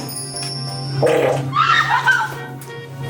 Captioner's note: fart "noise"